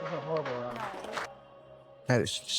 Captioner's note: people applauding